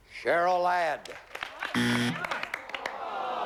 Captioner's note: buzzer